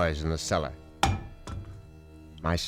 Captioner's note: thudding